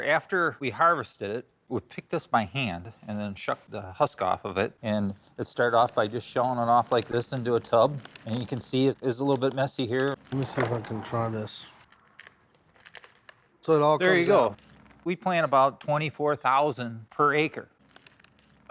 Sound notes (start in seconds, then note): 12.2 shelling